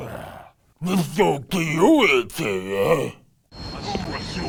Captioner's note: alien sounds